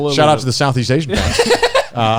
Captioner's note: laughing